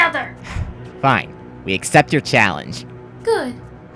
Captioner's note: sigh